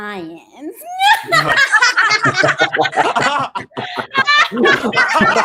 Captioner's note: Tooth Diablo family laughing